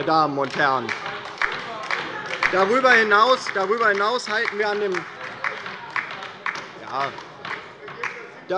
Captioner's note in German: Beifall bei der LINKEN - Zurufe von der SPD und der CDU